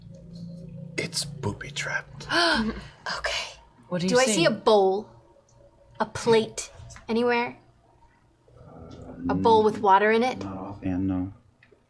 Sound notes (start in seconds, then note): 2.9 gasp